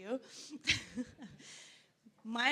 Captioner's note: laughs